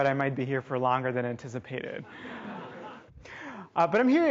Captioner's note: audience laughing